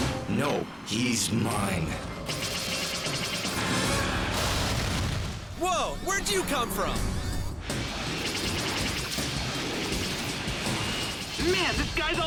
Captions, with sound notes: NO. HE'S MINE. (WEAPONS FIRE RAPIDLY) (EXPLOSION) WHOA! WHERE'D YOU COME FROM?! (WEAPON FIRES RAPIDLY)